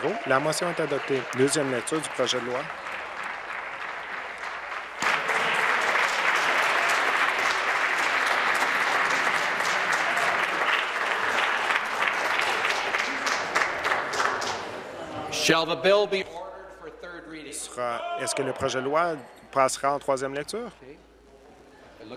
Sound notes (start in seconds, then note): 4.2 applause